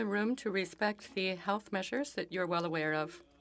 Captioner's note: speaking French